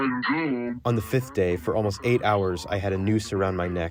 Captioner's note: through translator